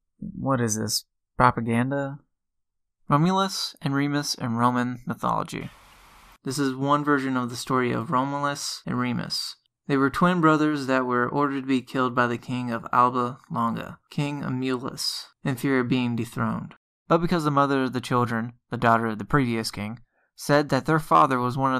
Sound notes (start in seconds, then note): 5.5 static noise